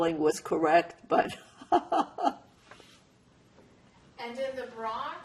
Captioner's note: laughing